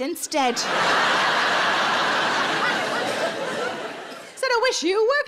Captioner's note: audience laughing